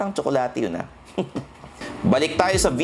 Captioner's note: laughs